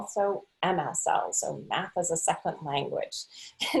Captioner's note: laughing